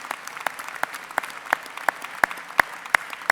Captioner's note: applause